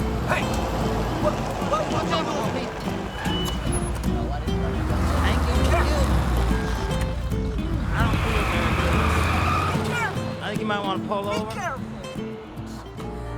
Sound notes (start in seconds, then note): 8.1 tires squeal